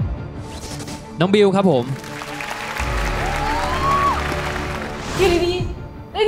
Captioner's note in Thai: ปรบมือ